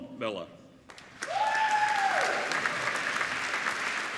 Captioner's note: applauding